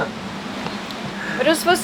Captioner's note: laughs